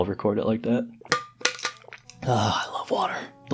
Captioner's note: live water bottle sfx